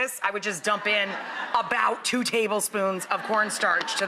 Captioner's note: audience laughs